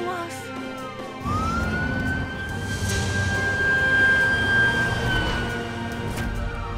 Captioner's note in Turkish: Siren sesi çalıyor